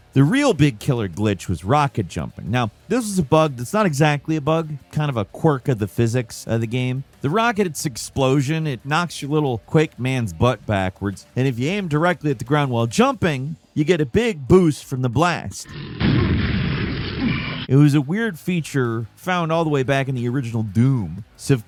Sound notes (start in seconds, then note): 15.8 explosion blasts